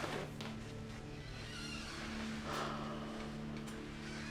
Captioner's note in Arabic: يفتح الباب